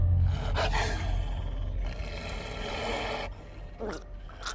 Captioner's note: Nicki gasping; wolf growling; blood gurgling; wolf growling